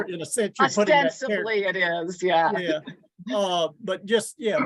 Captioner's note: chuckles